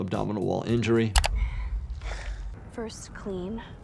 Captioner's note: keyboard clacking; actress and actor sighing